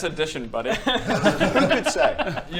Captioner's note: pitying laughter